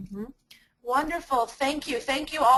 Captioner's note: voiceover